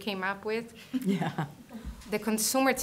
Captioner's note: soft laughter